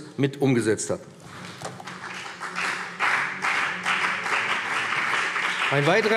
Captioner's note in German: Beifall BÜNDNIS 90/DIE GRÜNEN und vereinzelt CDU